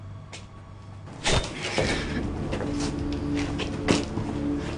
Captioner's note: metallic whooshing